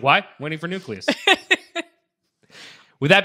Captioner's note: laughing